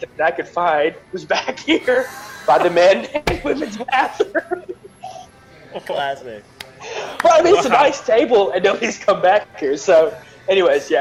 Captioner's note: laughter